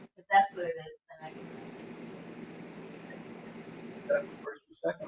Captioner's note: chatter; static crackles